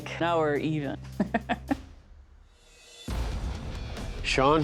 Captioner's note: laughs